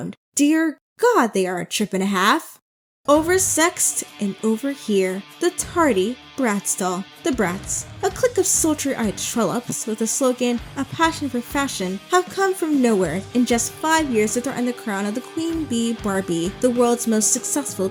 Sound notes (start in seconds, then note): 2.7 dramatic reading